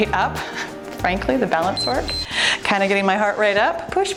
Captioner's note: timer beeps